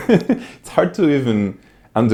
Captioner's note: giggles